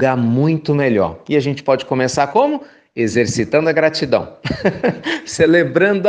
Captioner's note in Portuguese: risos